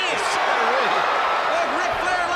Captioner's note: crowd cheering